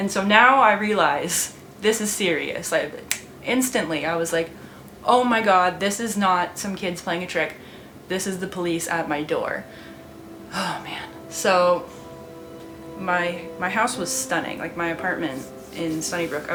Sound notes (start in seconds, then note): 2.7 snaps fingers